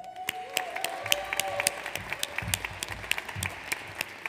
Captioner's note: audience applauds